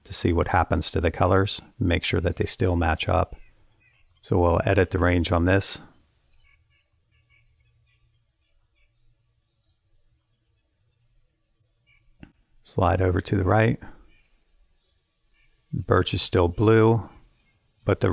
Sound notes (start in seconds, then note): 6.7 birds chirping